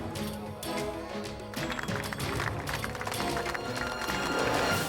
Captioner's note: crowd clapping